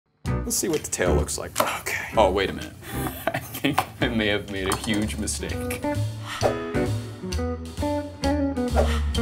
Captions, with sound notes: - Let's see what the tail looks like, okay. [knife chops] Oh, wait a minute, I think I may have made a huge mistake. [mellow jazz music]